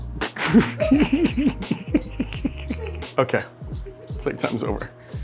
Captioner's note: laughing